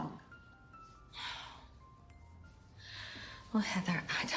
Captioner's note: sighs